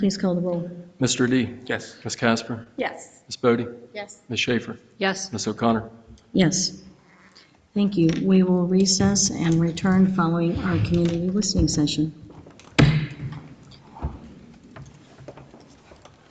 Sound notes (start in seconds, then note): 12.3 gavel thuds